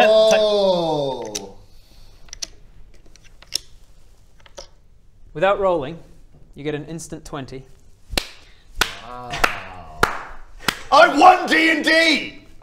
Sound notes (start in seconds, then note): 8.8 clap; 9.9 clap clap clap clap